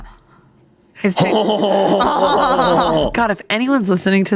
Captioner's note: chuckling